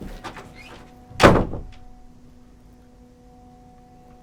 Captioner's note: door slams